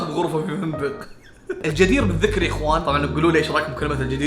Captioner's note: chuckles